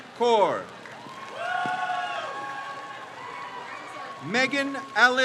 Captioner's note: crowd cheers